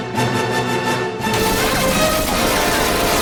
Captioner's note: gun Fire Sound